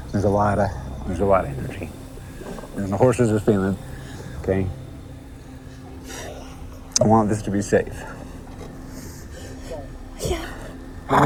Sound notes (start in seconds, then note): 5.9 exhales deeply